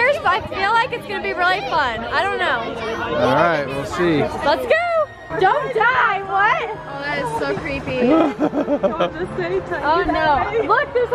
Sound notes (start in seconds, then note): 8.0 laughs; 9.9 excited chatter